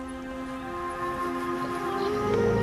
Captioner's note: rumbling; animals calling